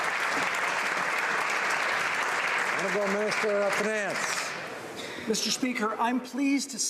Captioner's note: some Applause